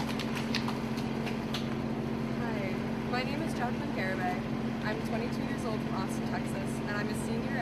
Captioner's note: applause